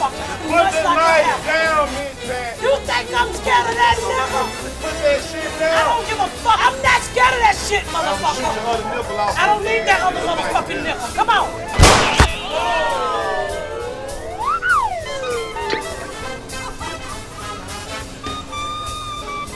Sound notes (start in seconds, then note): 11.8 gunshot blasting; 13.1 crowd exclaiming; 14.0 recorder sound effect; 15.7 water splashing; 17.0 jazzy music